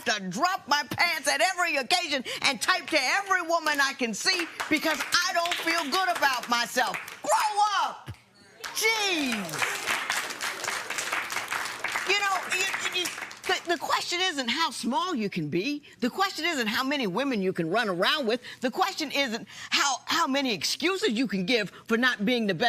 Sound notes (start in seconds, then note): 8.6 applause